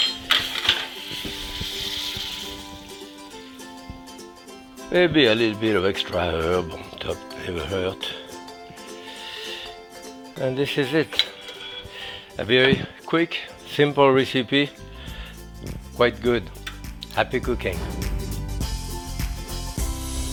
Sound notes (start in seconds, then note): 0.0 thunking; 0.0 metal scraping; 18.1 upbeat music